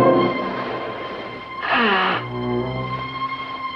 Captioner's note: blowing Nose